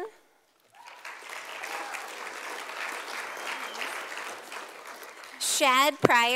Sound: sound of applause from audience

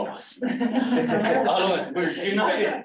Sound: laughter

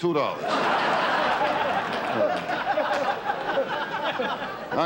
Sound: audience laughter

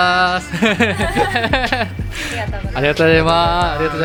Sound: laughter

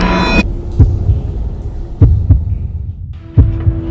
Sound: pounding heartbeats

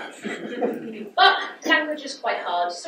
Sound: audience laughs

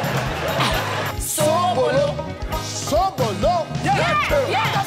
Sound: speaking foreign language

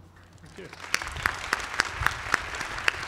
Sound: applause

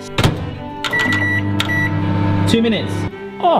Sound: beeping

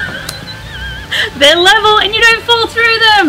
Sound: laughs

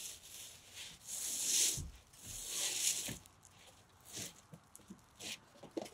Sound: material scraping on wood

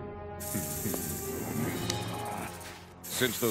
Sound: hissing; Cronus chuckling

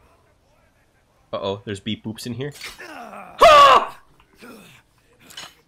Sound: yelp

